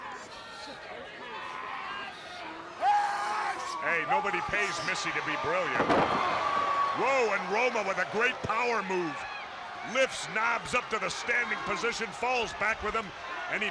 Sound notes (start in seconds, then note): 0.1 crowd chatter; 7.5 crowd cheering